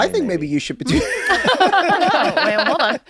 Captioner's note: they laugh